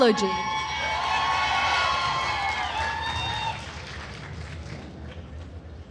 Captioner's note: attendees cheering and applauding